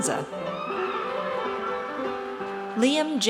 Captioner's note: audience cheers